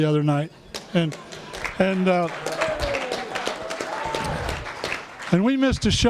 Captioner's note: applause